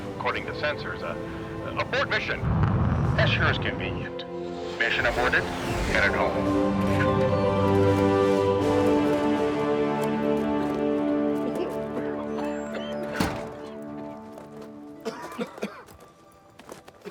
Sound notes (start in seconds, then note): 7.2 triumphant music; 12.7 everyone coughing